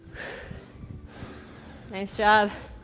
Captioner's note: breaths heavily